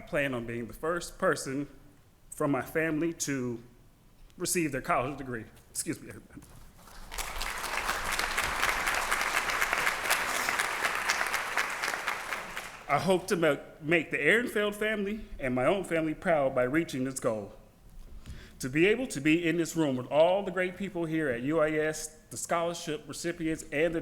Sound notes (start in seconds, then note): 6.8 applause